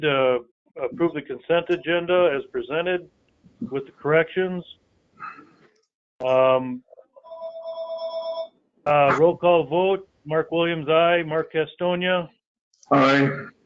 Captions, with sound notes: to approve the consent agenda as presented with corrections. (telephone ringing) Roll call vote, Mark Williams, aye, Mark Castonia? Aye.